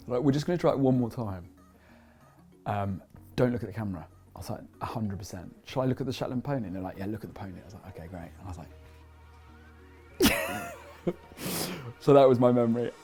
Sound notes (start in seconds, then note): 10.2 laughs